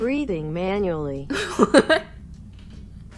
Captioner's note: computer Voice; she laughs